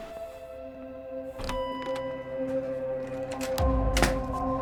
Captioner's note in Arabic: رنين جرس الباب; موسيقى مشؤومة